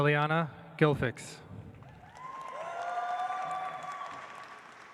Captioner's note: audience applauds